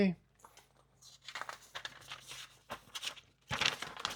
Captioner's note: paper rustling